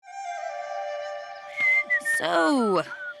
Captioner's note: whistling